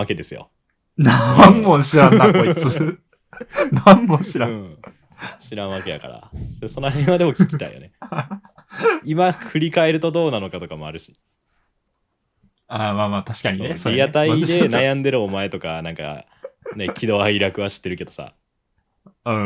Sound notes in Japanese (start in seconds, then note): 1.0 笑い; 6.8 笑い